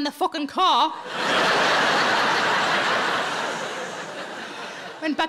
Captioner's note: audience laughing